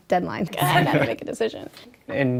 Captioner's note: chuckling